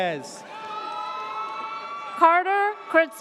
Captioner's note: audience cheers